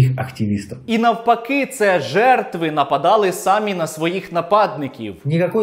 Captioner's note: sarcastically